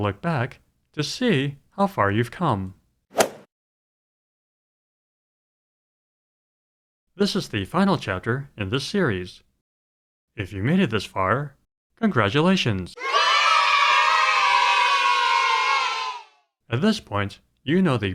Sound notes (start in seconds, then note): 3.2 swoosh; 12.9 kids cheering